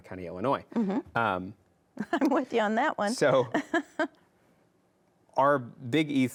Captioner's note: chuckles